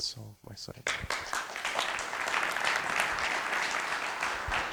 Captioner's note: applause